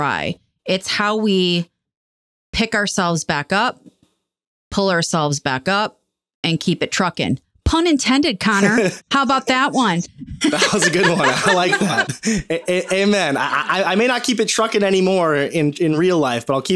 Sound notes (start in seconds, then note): 8.5 laughing; 10.3 laughing